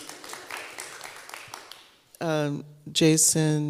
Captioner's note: applause